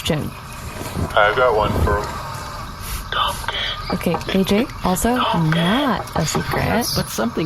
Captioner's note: whispering